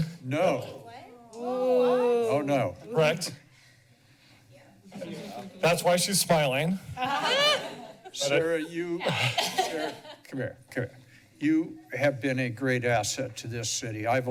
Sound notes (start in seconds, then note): 7.0 laughs